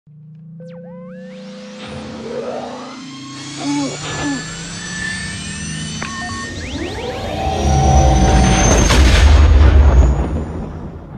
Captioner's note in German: Millennium Falcon Motorengeräusche